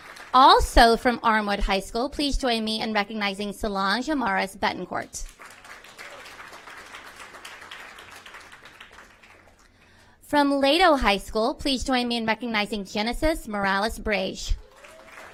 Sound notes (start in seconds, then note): 5.2 applause